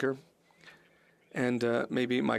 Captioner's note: speaking French